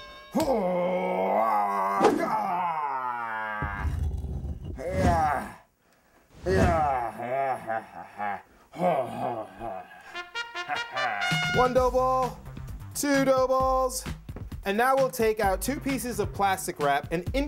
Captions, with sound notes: - OH. [grunting] TWO DOUGH BALLS. TWO PIECES OF PLASTIC WRAP